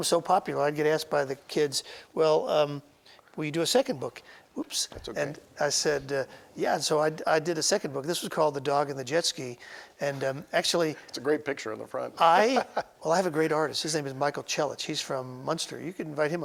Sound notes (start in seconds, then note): 12.2 laughing